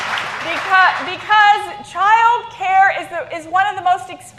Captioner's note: applause